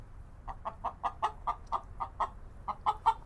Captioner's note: cluck, cluck, cluck